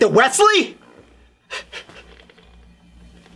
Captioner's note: laughs